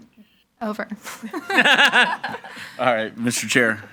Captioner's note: all laughing